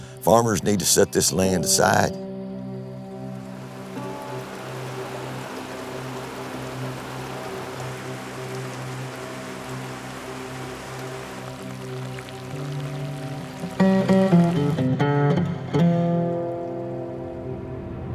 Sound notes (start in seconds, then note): 4.9 rain pouring; 9.1 tranquil music